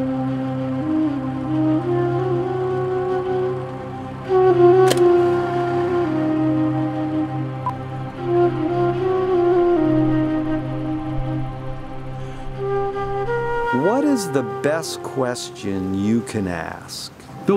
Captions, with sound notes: (solemn flute music) (device beeps softly) (solemn flute music) - What is the best question you can ask?